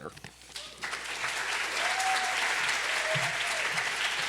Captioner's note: applause, cheering